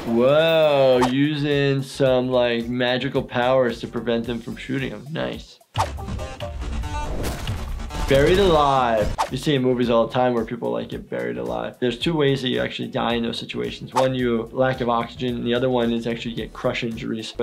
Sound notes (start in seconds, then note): 6.2 active music; 6.2 concrete thumping